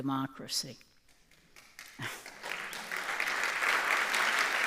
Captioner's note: audience applauding